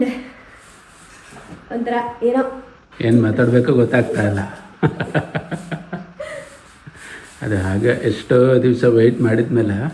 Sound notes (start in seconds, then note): 4.8 laughs